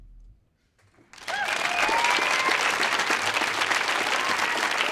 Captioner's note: audience applauding